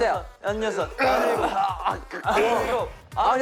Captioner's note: groaning